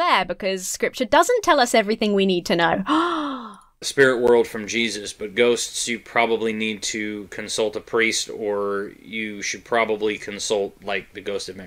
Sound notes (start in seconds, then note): 2.9 gasps